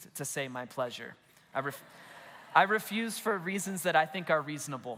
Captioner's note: congregation laughs